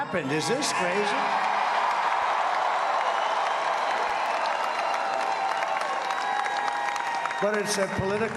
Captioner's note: applause